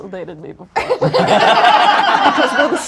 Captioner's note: audience laughs